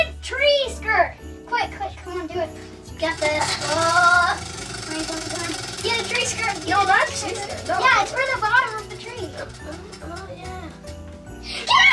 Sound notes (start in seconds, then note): 4.2 wheel spinning